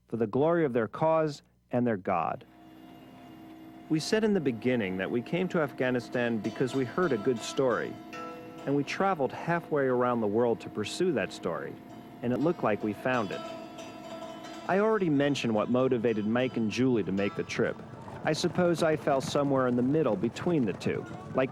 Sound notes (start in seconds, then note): 2.5 helicopter humming